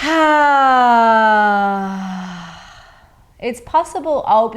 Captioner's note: sighing deeply